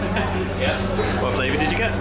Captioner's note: laughs